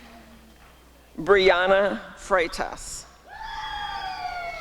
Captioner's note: applause and cheering